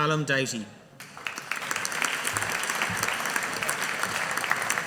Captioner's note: audience applauding